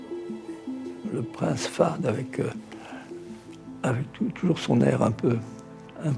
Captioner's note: speaking in French